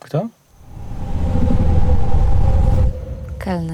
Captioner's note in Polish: Złowieszczy dźwięk